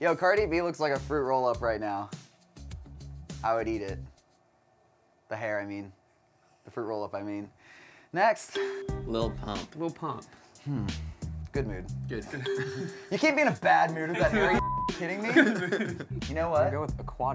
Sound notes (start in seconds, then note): 8.5 ding; 12.4 ding; 12.5 laughs; 14.4 beep; 15.1 laughs